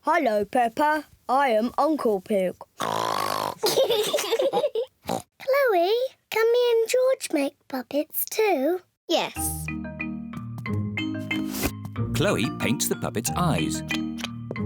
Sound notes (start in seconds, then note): 0.1 in deep voice; 2.8 oinks loudly; 3.5 both giggle; 5.1 oinks; 9.0 in normal voice